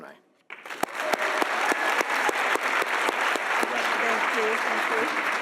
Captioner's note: audience applauding